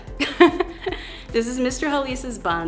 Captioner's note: laughs